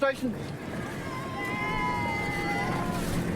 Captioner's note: cheers